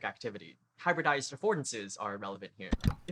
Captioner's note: click